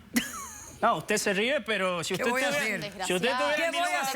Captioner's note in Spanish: Risas